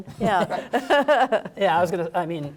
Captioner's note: laughter